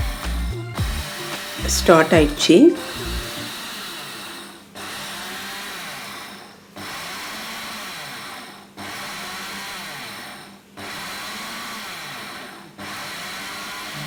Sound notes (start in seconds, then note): 2.8 grinding sound